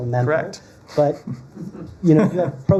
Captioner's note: laughter